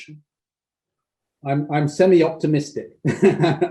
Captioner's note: laughs